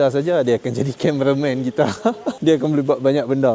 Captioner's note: laugh